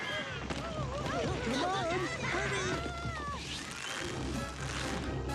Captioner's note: crying